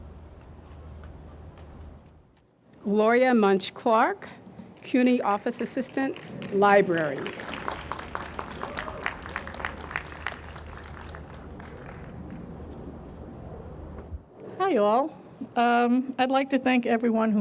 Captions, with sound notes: - Gloria Muncsh-Clark, CUNY Office Assistant, Library. (audience applauds) - Hi all, I'd like to thank everyone